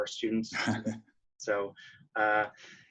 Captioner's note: board member laughing